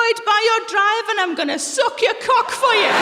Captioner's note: laughter